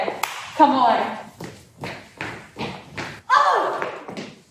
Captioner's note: claps